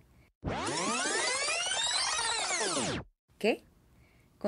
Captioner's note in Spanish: sonido de cinta en reversa